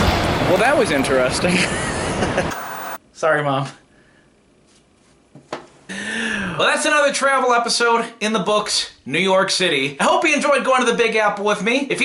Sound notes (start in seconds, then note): 1.4 chuckling; 2.3 white noise scratching